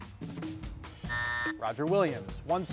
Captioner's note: buzzer sounding